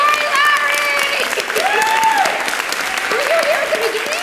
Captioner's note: applause